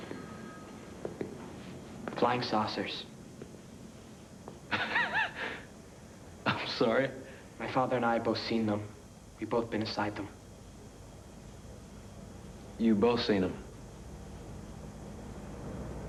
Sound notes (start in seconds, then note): 4.7 laughs